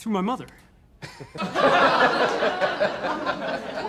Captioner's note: laughter